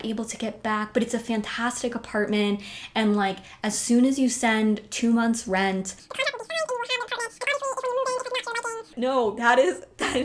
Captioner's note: sped up voice